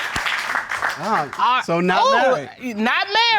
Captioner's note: judges exclaim